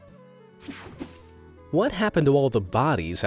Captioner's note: image whooshing